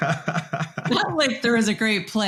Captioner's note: laughs